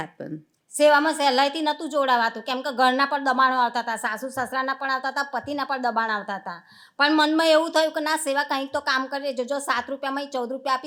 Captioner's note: speaking gujarati